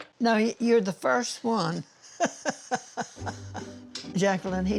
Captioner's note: laughing